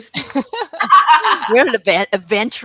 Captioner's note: laughter